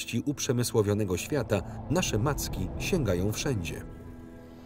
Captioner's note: wind whistles; birds chirp